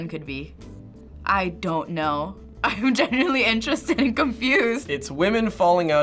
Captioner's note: laughs